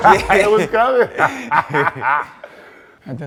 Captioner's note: laughing